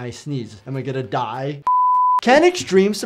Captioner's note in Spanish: pitidos de transmisión